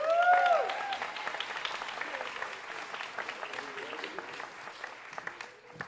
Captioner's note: audience cheering and applauding